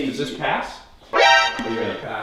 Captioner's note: alerted sound